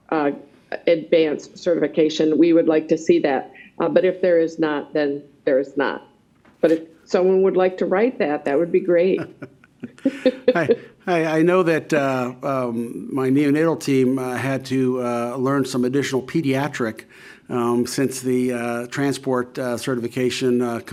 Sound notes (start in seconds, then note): 9.0 both laughing